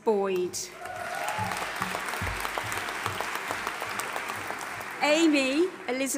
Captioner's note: audience applauding and cheering